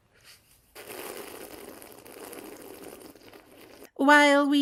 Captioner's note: loud slurping